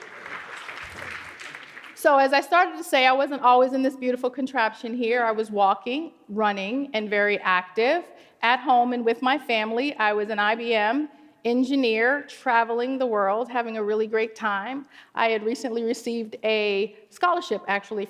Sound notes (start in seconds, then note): 0.0 applause